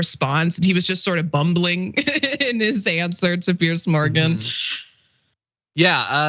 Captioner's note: laugh